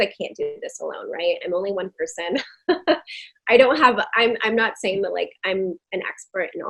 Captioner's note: laughing